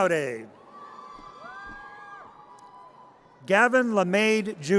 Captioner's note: audience cheers